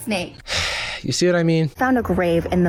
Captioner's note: sighs